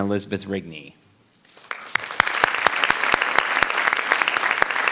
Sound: applause rings

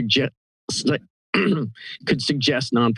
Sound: clears throat

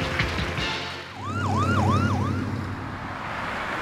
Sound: ambulance siren

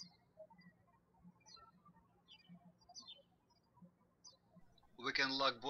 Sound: birds chirping

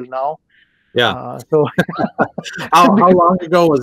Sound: laughter

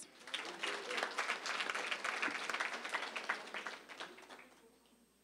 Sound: applause

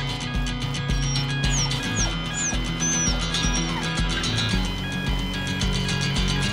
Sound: bridge alarm beeping; dog whining

